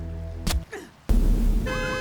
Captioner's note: masked runner grunts; car alarm blares